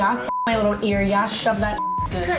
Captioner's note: beep